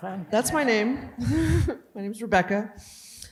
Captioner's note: laughs